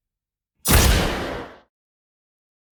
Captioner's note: gunshot